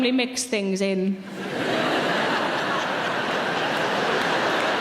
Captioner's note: audience laughing